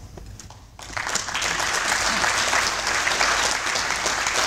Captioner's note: applause